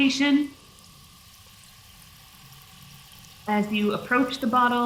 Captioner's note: water fizzes